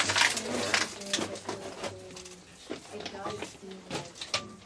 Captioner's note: gravel crunching